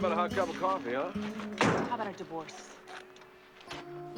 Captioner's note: door slams